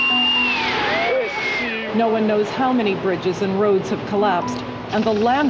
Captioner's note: screaming